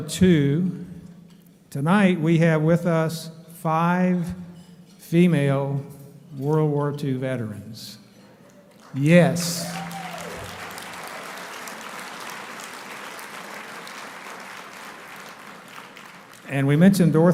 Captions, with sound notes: Coast Guard, two. Tonight, we have with us five female World War Two veterans. Yes. (applauding)